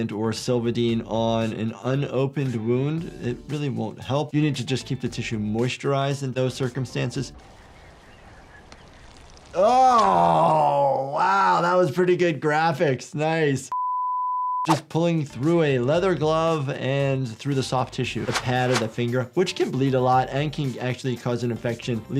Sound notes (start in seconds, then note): 7.3 birds chirping